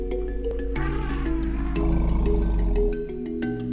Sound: elephant noises

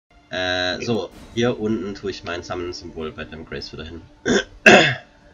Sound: clears throat

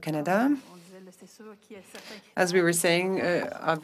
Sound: speaking French

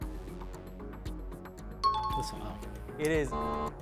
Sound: timer bell

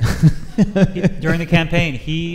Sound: laughs

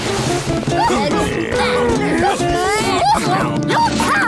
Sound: grumbling

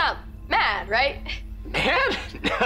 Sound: cheering

